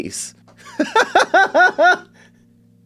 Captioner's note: laughs